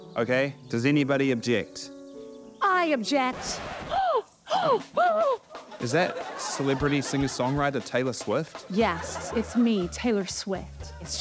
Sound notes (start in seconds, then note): 3.9 both gasp; 3.9 gasps